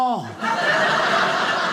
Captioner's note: audience laughing